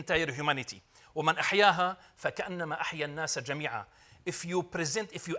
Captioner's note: speaking Arabic